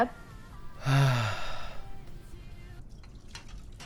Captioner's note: Ayanokōji sighs